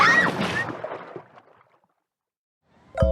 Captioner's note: splash